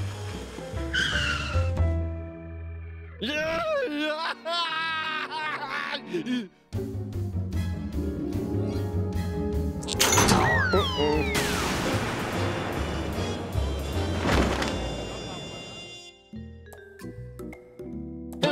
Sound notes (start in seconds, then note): 3.2 sobbing